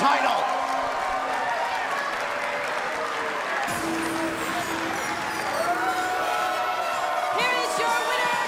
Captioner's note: bell ringing